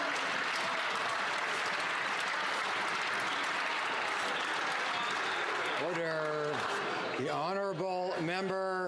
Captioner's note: some Applause